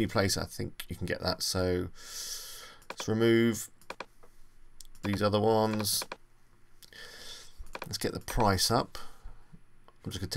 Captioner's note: inhale